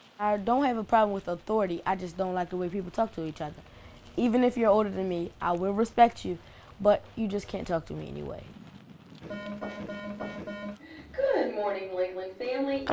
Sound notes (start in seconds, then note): 9.3 school bell ringing; 10.5 intercom